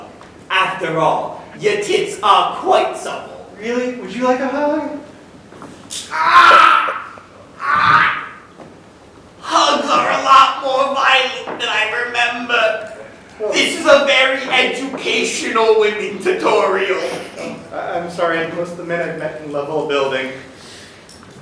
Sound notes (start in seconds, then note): 6.0 groans